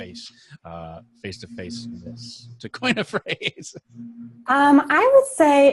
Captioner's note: laughs